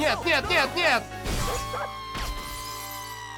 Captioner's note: glass shatters, nshot